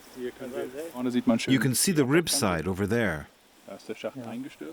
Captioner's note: in German